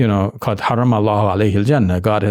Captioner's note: speaks in Arabic language